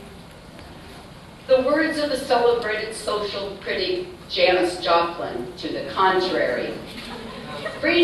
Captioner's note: laughter